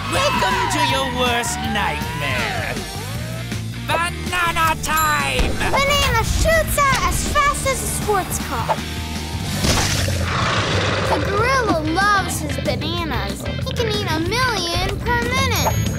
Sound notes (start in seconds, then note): 4.4 bell rings; 9.4 banana squelches; 10.0 gorilla gurgles